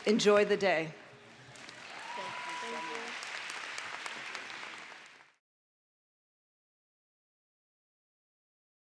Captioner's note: applause